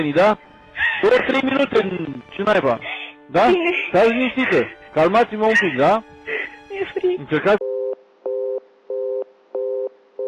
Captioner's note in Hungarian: nevetés